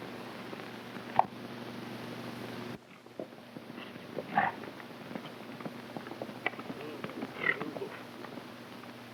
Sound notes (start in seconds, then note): 2.8 hooves clopping